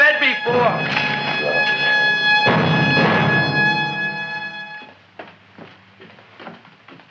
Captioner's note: dramatic music; Audrey Jr. munching